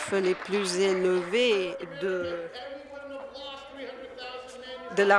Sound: some Applause

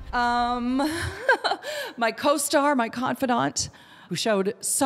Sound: laughs

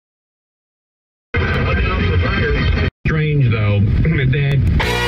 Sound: scanning radio sound effect

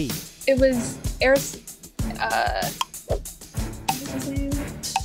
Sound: timer ticking

